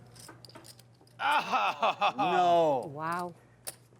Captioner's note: gasps and laughs